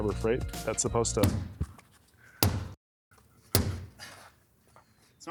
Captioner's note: banging on glass